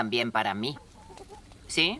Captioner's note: chicken clucking